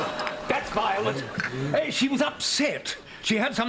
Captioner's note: doorbell